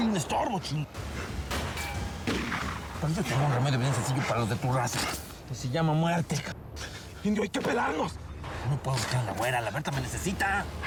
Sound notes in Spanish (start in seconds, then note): 3.4 habla entre dientes